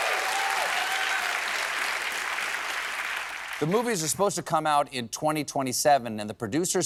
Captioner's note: cheers and applause